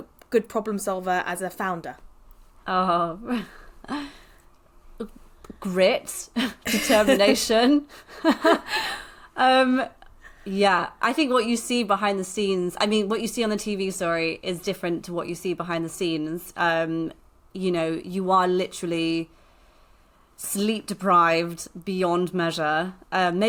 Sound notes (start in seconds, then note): 4.0 laughs; 9.1 laughs